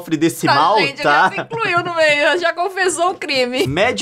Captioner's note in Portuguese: risadas